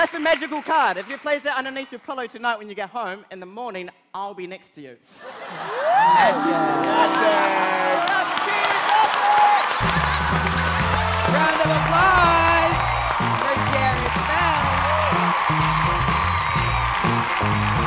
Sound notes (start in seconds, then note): 9.5 cheers and applause; 14.8 upbeat music